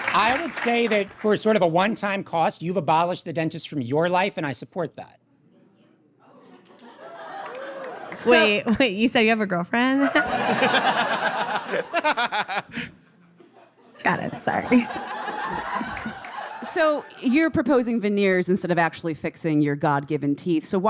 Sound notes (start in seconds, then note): 10.1 audience laughs uproariously; 15.0 audience chirps